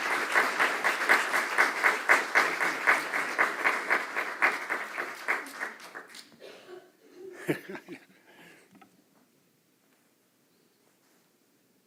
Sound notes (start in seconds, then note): 3.0 applause; 3.0 laugh